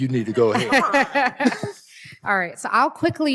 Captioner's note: laughter